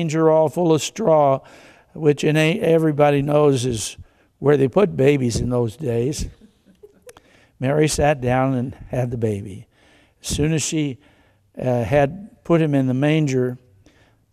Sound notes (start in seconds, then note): 6.0 congregation giggles